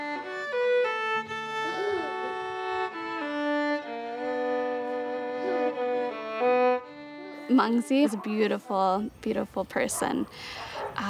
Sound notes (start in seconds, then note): 1.5 chuckles